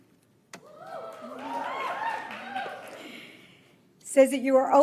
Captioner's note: audience applauds